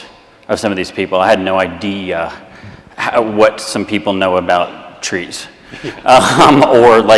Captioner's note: all laugh